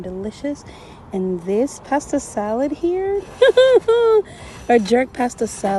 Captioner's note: laughs